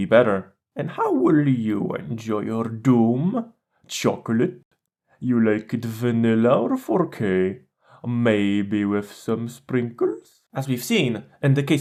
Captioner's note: funny voice